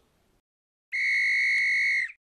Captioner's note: whistle